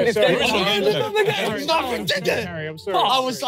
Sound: everyone laughing

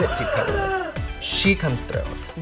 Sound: voiceover gasps

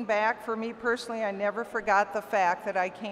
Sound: none

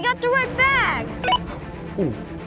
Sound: walkie talkie beeps

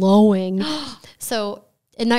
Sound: gasps

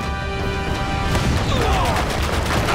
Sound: crashing

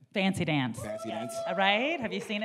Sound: audience members whooping

